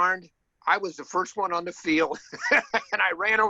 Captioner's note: laughs